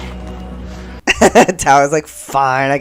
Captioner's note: laughter